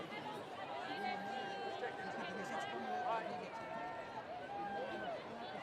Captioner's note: students cheering and screaming